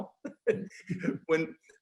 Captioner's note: laughing